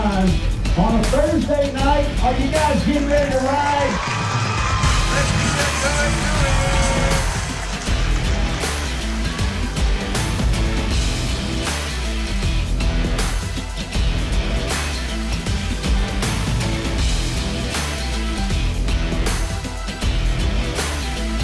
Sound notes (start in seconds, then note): 4.1 crowd cheering; 6.2 upbeat intense music